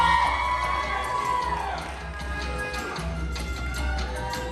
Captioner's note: applause